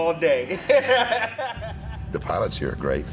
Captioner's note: laughs